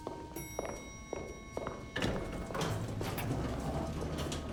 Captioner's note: elevator dings